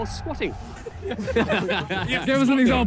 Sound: players laugh

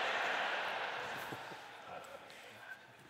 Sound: laughter

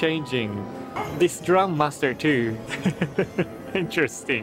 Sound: laughs

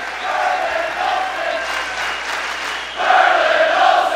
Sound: clapping

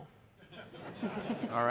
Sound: laughter

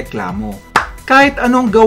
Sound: clap!

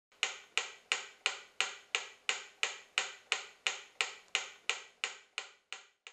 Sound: pendulum ticking

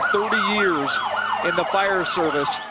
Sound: sirens

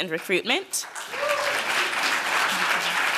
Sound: applause

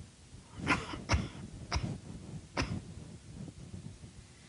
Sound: coughing

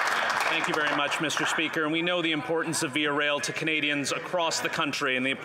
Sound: applause

